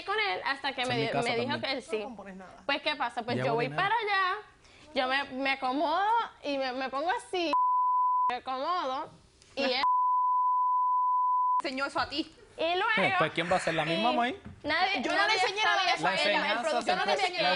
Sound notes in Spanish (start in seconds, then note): 7.5 Bip; 9.8 Bip prolongado